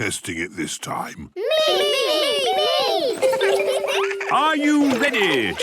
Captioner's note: laughter